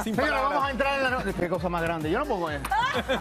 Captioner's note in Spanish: risas